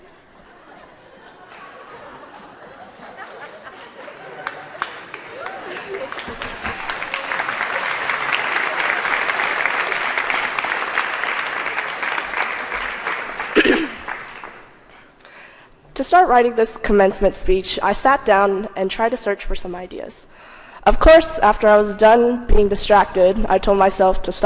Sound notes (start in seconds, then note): 0.0 laughter; 4.7 applause